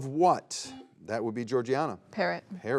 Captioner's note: buzzer beeps